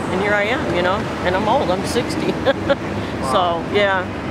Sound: laughs

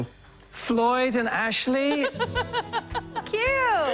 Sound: laughter

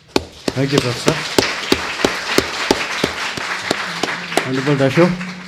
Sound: audience applauds

